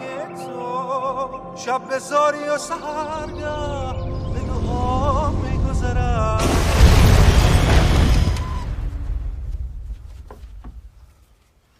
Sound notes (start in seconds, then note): 6.4 crashing